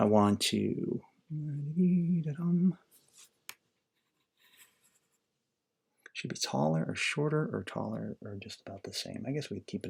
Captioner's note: humming